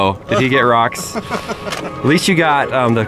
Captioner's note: laughing